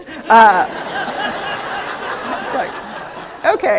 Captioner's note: laughter